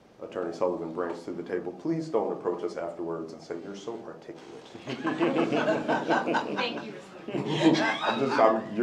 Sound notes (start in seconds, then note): 4.8 laughter